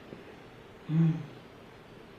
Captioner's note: mmmm